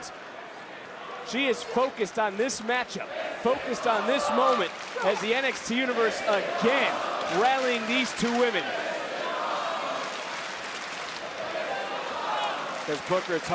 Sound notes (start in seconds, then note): 3.0 crowd chants "this is awesome"